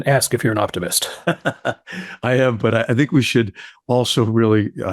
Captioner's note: laughs